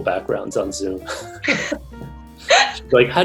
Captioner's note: both chuckle